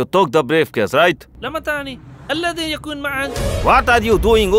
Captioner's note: Speaking in Arabic